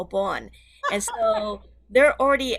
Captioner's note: laughs